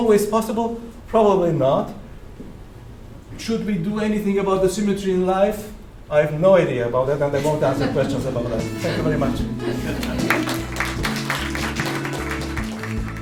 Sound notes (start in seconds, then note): 7.3 audience laughter; 10.0 audience applauses and credit music plays